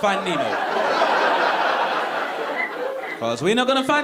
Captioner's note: audience laughing